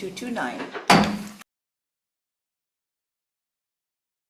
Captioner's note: gavel bangs